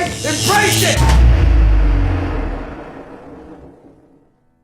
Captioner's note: generator dying